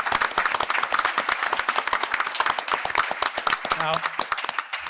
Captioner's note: applause